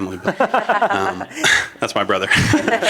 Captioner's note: laughter